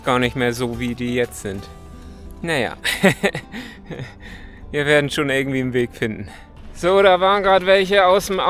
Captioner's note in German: gelächter